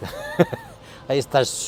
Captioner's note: laughing